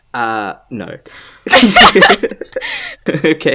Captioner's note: laugh